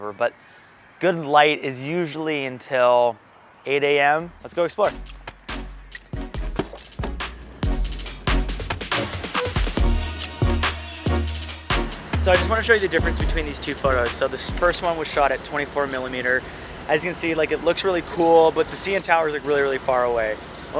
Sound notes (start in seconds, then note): 5.7 relaxed music; 6.4 car door opening; 7.9 relaxed music